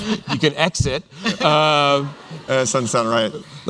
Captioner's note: laughter